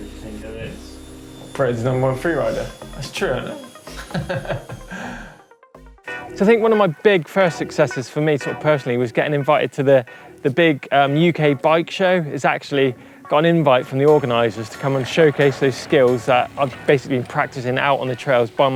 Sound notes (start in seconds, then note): 3.8 laughs